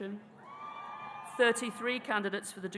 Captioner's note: audience cheering